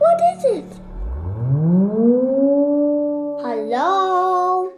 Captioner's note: siren blaring